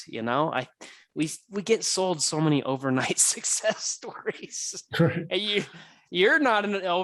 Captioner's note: chuckles